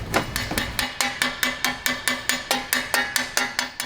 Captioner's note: hammer banging